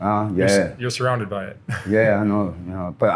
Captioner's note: laughs lightly